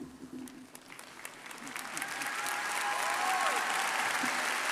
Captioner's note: crowd applauding